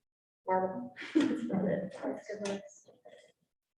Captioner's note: group chuckling